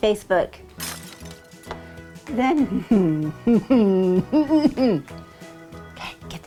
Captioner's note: laughing